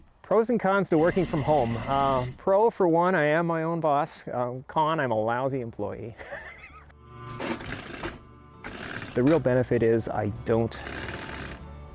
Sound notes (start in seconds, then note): 0.0 sewing machine roaring; 6.2 laughing; 8.6 sewing machine ticking